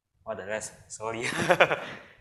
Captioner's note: laughs